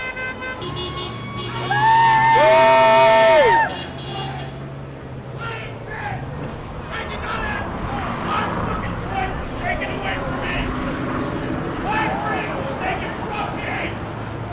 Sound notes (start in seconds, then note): 1.2 cheering; 5.4 man yelling